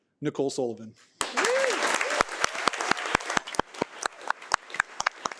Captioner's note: audience applauding